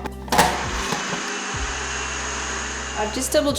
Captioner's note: blender sounds